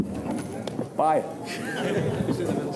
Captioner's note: laughs from the journalists